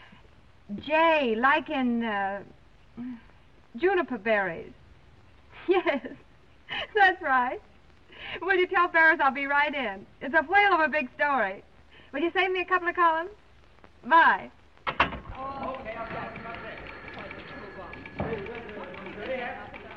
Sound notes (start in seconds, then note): 5.6 giggles; 14.9 phone clangs; 15.2 phones ringing; 15.3 office workers shouting